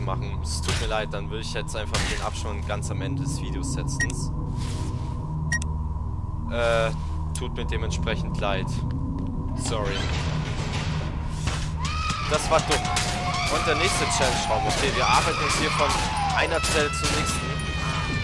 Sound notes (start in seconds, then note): 11.8 loud women screaming